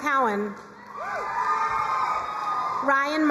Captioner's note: crowd cheering and applauding